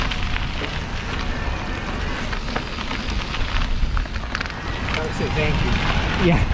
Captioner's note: crackling